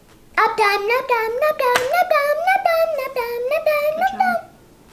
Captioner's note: vocalizing